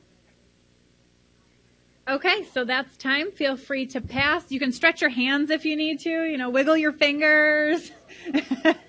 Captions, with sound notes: Okay, so that's time. Feel free to pass. You can stretch your hands if you need to. You know, wiggle your fingers (laughs softly).